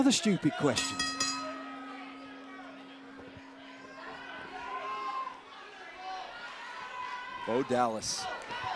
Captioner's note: bell ringing